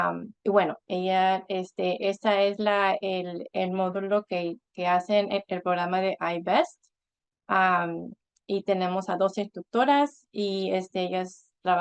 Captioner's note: Spanish, explanation of the I-BEST program